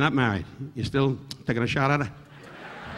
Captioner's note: Don clicking tongue; audience laughing